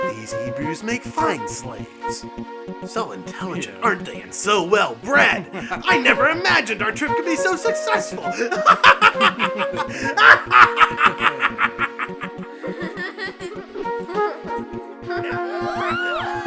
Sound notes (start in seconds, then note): 8.4 צחוק מרושע; 12.5 מצחקק